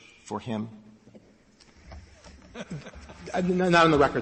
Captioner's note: laughter